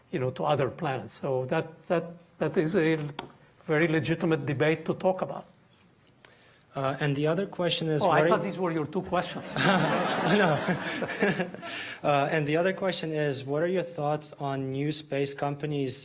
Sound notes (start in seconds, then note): 9.3 audience laughing